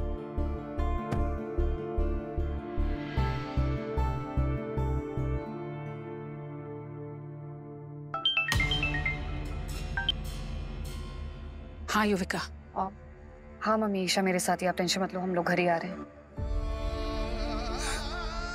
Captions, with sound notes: [solemn music playing] [phone ringing] Yes, Yuvika. Yes, mom. Isha is with me. Don't worry. We are coming home. [solemn music playing]